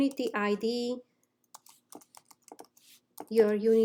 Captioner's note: instructor typing